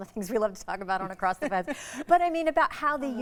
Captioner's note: chuckling